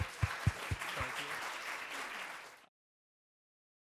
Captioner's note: applause